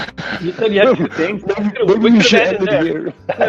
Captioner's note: laughing; both mumbling